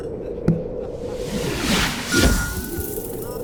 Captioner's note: landing sound